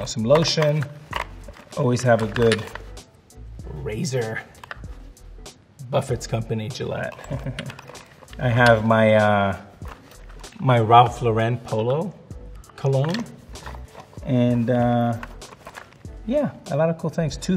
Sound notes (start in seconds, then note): 7.1 laughs